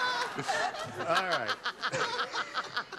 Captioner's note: laughter